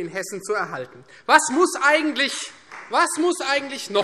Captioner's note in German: Beifall Freie Demokraten